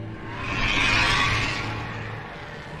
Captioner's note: dementors shrieking